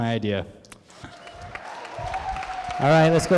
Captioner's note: applause